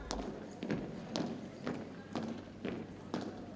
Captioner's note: boots thumping